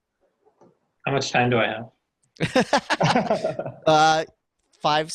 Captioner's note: laughing